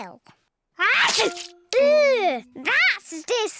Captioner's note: sneezes